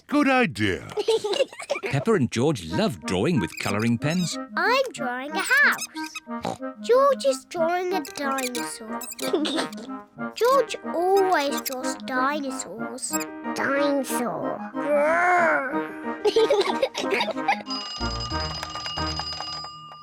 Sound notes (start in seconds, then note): 6.3 oinks; 15.0 growls; 16.2 both laugh; 17.5 clock rings